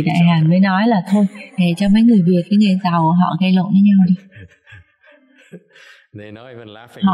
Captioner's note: laughter